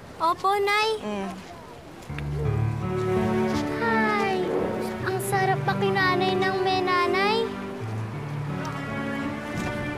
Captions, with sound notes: -Yes, Mom? -Hmm. [dramatic music] [exhales] It's so nice to be with a mom.